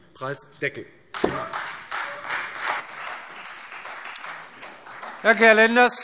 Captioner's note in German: Beifall Freie Demokraten